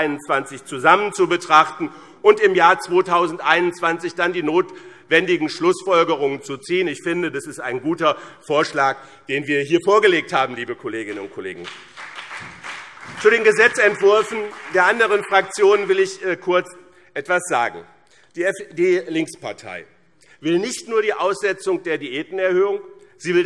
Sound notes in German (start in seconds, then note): 11.5 Vereinzelter Beifall BÜNDNIS 90/DIE GRÜNEN und CDU